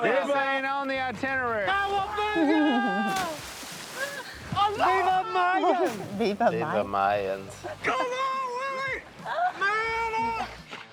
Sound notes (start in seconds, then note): 3.0 water splashes